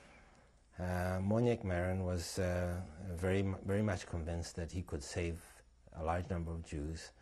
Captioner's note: non-english